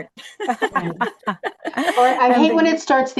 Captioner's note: laughter